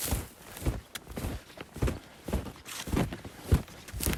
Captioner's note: snow crunching